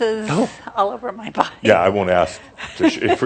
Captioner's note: she chuckles